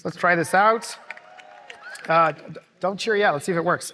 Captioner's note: cheering